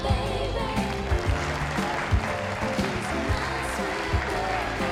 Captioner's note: applause